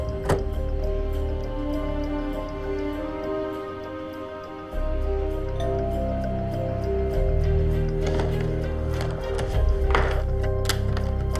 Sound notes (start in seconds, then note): 0.1 tense orchestral music; 5.5 doorbell ringing